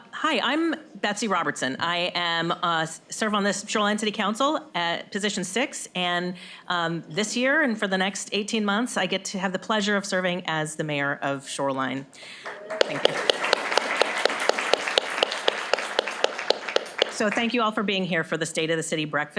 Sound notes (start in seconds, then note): 12.3 applause